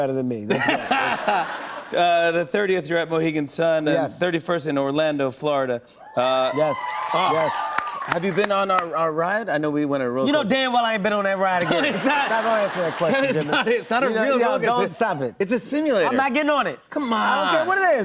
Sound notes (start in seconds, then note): 0.5 laughter; 6.1 cheers and applause; 11.5 laughter